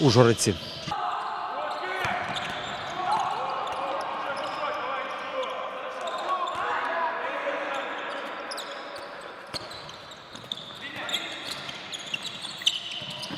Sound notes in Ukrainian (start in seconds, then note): 0.9 крики гравців та тренерів